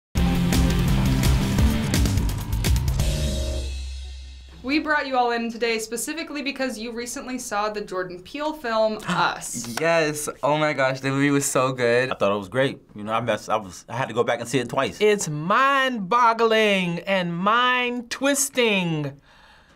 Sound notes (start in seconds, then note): 0.2 industrial intro; 9.6 gasps